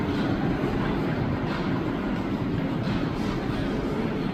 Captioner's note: plane noises